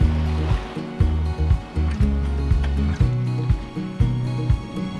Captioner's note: waves crashing